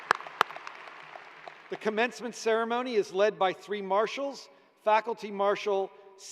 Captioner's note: applause